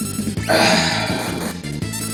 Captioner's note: sighs